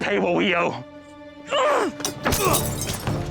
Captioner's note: elizabeth grunts; struggling; glass shatters